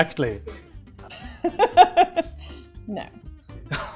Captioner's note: laughter; laughs